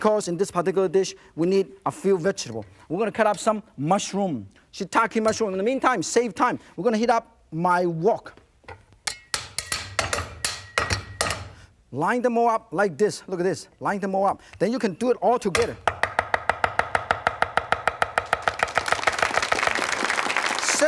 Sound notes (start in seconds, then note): 15.6 knife chopping; 18.2 audience clapping